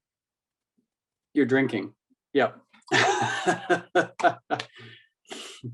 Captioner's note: laughter